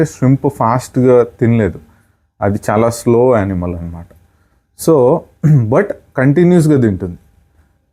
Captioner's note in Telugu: గొంతు సవరించుకోవడం